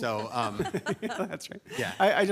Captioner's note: people laughing